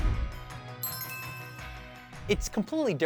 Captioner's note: pleasant chimes ring